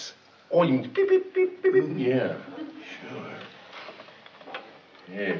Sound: beeping

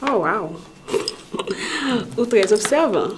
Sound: chuckles

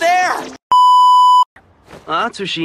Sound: static beep sound

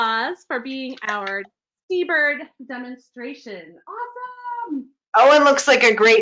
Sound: shouts

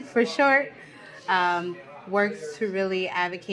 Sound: background chatting

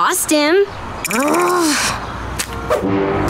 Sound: growling

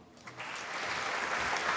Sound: applause

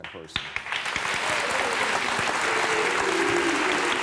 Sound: audience applauds

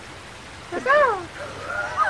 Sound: bird noise

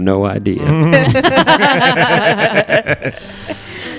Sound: laugh

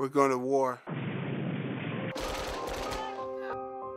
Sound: explosion; gunfire

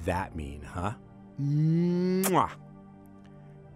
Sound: kissing sound

